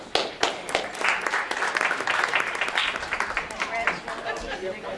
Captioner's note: audience claps; audience chatters and laughs